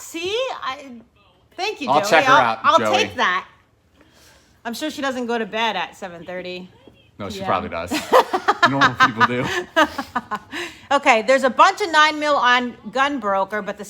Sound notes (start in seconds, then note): 7.9 laughing